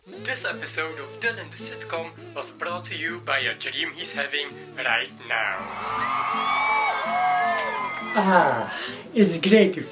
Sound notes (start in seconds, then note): 5.4 audience cheers